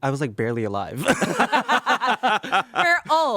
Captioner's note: everyone laughs